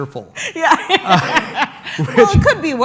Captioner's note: laughs